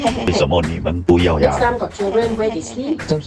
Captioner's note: in Mandarin